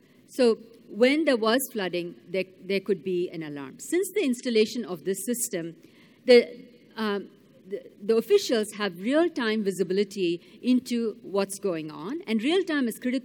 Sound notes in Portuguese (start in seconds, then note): none